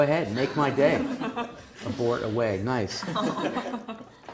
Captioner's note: laugh; laugh